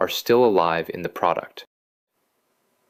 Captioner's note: pause